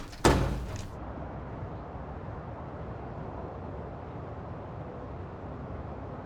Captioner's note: a door